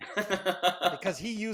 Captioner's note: laughing loudly